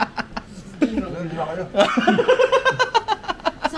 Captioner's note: laughs